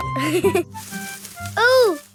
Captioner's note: leaves rustling